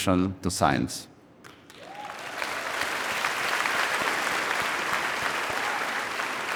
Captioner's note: audience cheering and applauding